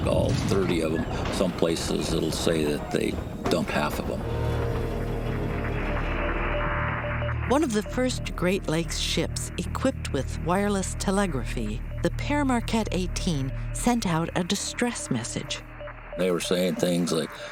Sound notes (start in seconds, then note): 2.8 staticky ship to shore radio transmits S-O-S